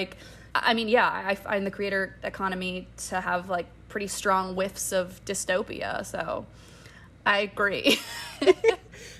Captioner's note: laughter